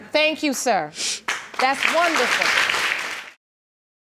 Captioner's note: audience claps